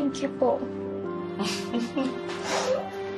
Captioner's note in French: chuckles